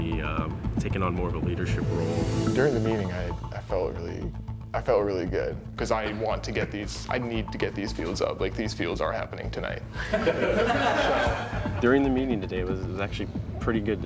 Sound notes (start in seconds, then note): 10.0 laughs